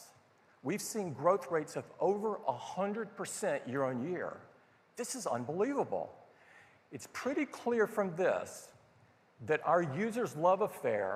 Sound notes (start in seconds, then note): none